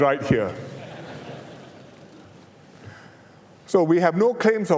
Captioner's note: laughter